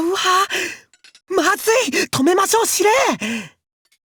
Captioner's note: whisper